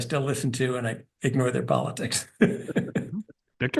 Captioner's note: laugh